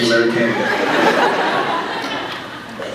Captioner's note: laughs